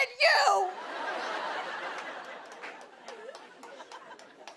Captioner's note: laughter